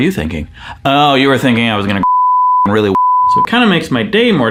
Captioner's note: beep